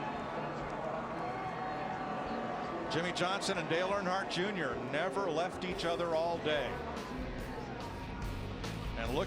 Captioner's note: applause